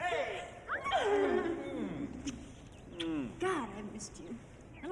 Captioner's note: Jill squeals delightfully